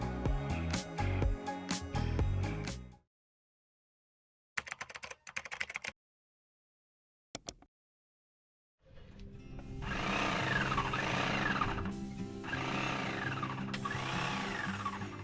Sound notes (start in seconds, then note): 0.0 upbeat music; 4.5 keyboard clacking; 7.4 mouse clicking; 9.3 equipment whirring; 9.3 lighthearted music